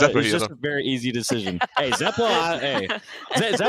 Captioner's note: laughs